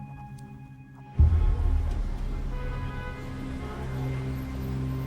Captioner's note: gentle music; car horns honking; gentle music